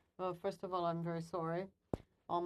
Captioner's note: speaking French